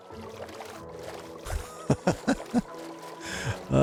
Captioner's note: laughs